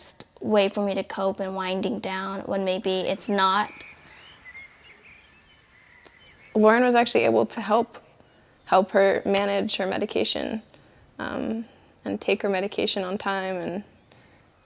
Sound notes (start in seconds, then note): 5.4 birds chirping